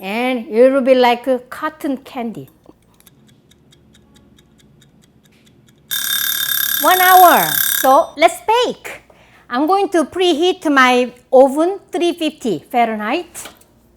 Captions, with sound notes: And it will be like cotton candy. (ticking) (alarm rings) One hour! So let's bake! I'm going to preheat my oven, 350 Fahrenheit.